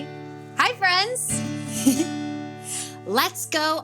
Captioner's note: chuckles